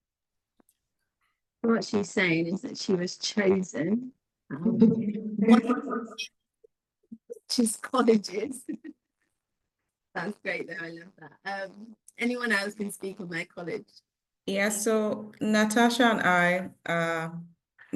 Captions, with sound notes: What she's saying is that she was chosen (audio breaks) (participant laughing) richest colleges. That's great though. I love that. Anyone else can speak on their college? Yeah, so Natasha and I,